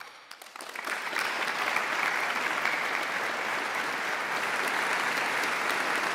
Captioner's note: audience claps